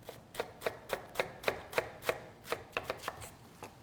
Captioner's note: chopping sounds